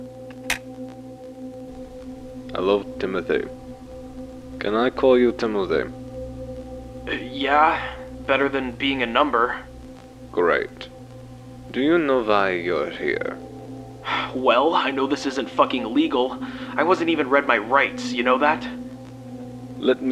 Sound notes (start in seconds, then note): 14.0 sighs